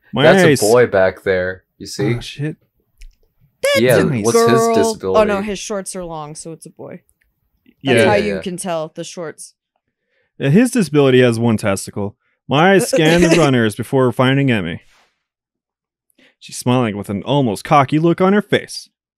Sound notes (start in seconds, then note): 12.8 giggles